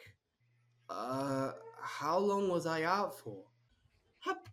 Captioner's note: groans